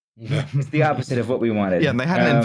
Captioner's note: laughter